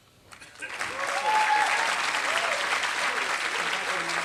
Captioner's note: applause